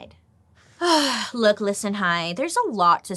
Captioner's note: sighs